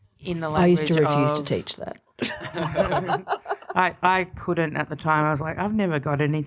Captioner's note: laughs